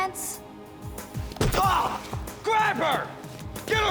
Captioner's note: grunts